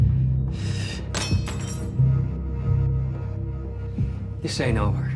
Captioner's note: knife clanking